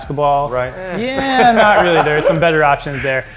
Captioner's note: laughing